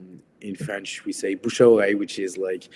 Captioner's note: speaks a foreign language